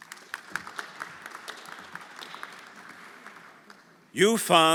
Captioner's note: everyone applauding